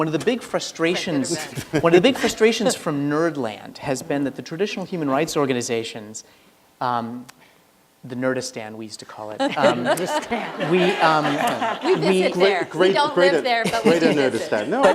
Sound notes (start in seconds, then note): 9.4 laughter